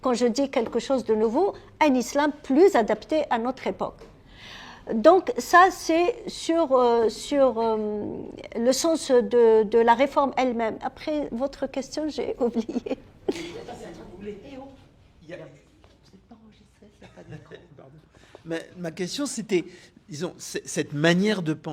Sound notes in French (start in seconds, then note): 13.2 rires